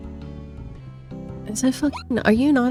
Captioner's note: hyucking